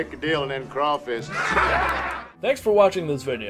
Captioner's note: laughter